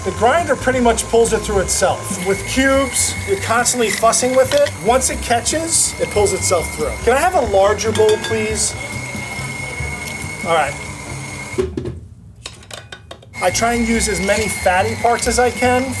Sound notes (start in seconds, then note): 11.4 meat grinder clanking